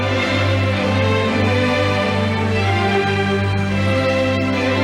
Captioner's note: audience applauding